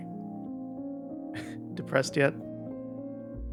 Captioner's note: chuckle